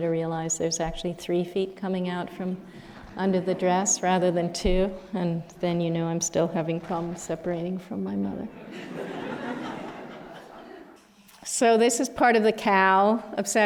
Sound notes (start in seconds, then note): 8.5 laughter